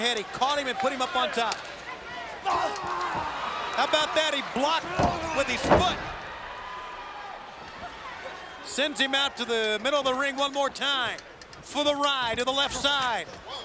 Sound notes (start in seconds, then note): 2.6 Liger grunts